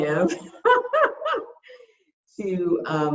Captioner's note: laughs